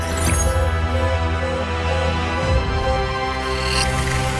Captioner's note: warning sound